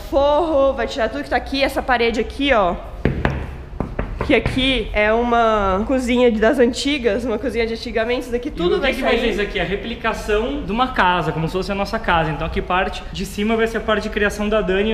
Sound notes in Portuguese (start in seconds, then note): 3.0 Batidas na parede